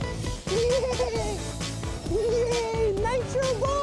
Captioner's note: bad japanese accent